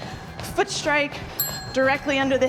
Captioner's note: bell dinging